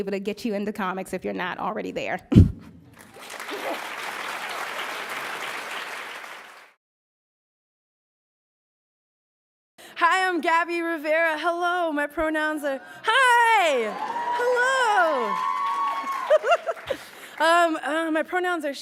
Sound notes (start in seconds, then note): 2.6 laughs; 2.9 applauds; 15.7 cheers; 16.0 laughs; 16.2 applauds